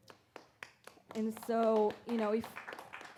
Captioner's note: audience applauds